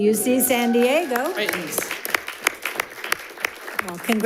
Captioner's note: audience applauds